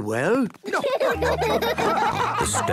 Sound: laughing

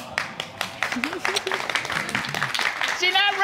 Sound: giggles

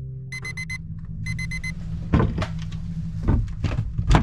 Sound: alarm bleeps

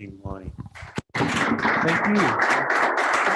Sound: audience applause

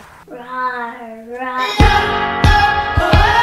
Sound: roaring; upbeat music

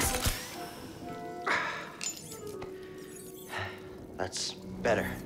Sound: healing stim hisses; relieved sigh

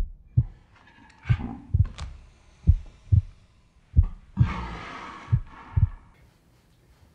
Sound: sound of heart beating in slow motion; sound of heart beating and breathing in slow motion

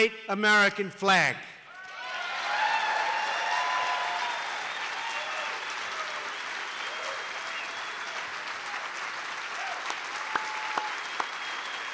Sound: applause

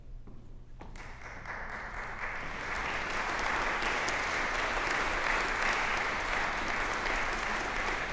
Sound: applause

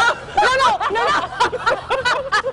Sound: laughter

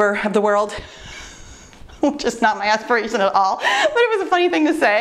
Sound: laughs

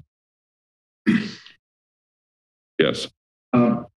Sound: cough

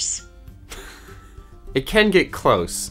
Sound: laughs

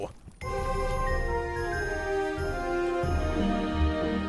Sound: bells chiming

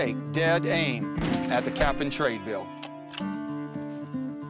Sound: gun firing

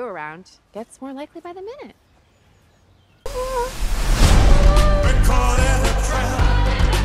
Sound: cat purrs

